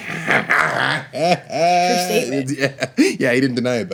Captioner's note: laughing